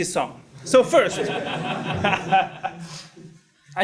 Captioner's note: laugh